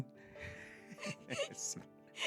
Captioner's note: laughing